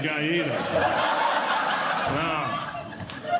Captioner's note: audience Laughing